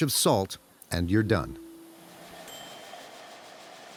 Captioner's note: bell rings